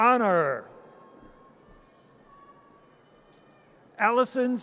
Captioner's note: audience cheers